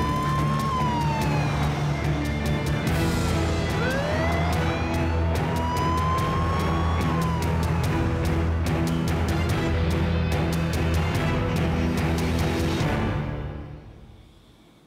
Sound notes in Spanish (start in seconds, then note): 5.1 sirena de policía